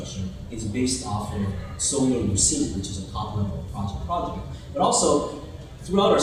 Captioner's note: murmurs